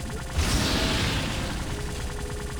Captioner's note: explosion